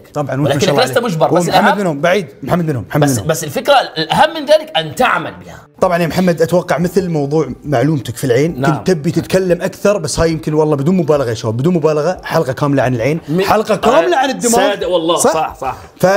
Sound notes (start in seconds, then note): none